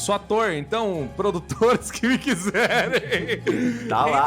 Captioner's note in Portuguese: Risada